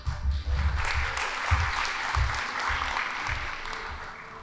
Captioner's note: band playing; audience applauding